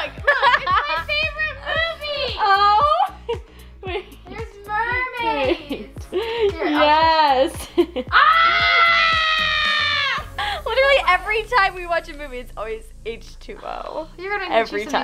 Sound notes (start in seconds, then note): 3.0 giggles; 8.1 screams